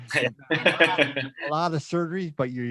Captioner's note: chuckles